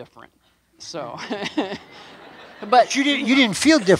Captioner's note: laughing